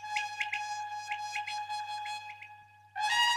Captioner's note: whistling